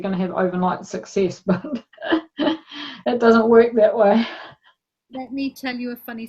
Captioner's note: laughs